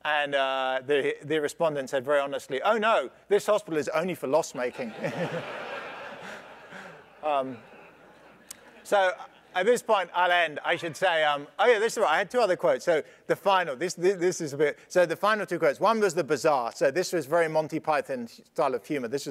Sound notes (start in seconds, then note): 4.8 laugh